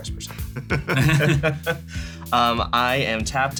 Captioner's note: laugh